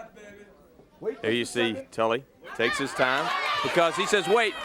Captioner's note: crowd chatter